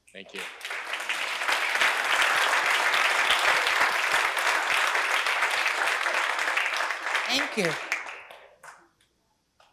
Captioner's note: applause